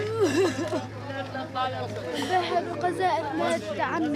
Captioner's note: woman crying